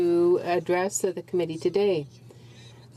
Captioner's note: speaking french